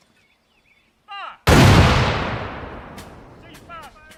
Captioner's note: cannon shot